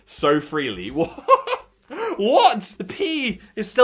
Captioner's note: laughs